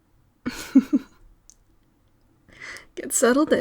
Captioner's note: laugh